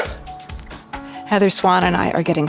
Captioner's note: dog barking